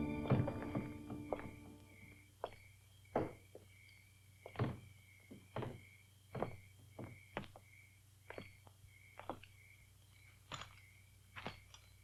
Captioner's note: Cass's slow footsteps